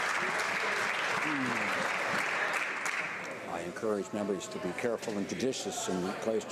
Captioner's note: some Applause